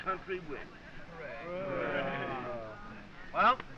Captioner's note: all agreeing